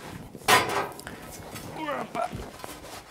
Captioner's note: he groans